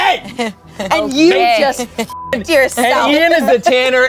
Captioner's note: beep